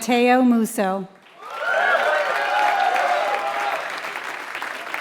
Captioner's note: applause